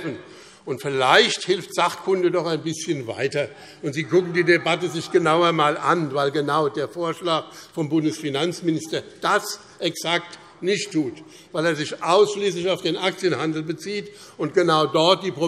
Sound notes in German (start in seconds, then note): none